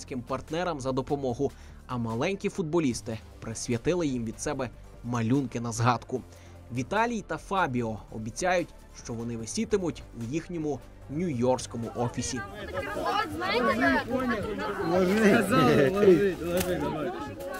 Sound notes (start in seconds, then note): 11.8 children talking